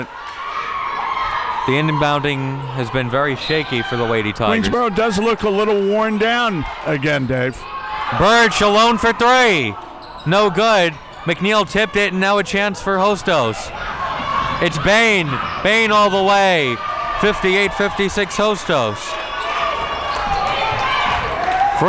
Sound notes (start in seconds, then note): 16.9 audience cheering